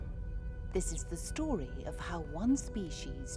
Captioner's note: voiceover